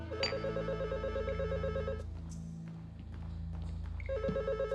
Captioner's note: ring